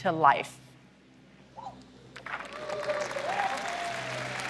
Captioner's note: applause